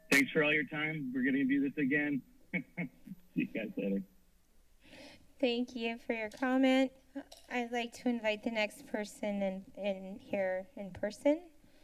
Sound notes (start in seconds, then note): 2.6 laughter